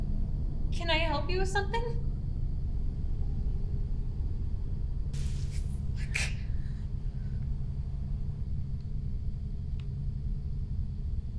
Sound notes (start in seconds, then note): 5.1 flame sizzling; 5.8 Natalie gasping